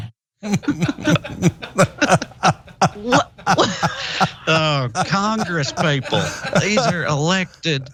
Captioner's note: laugh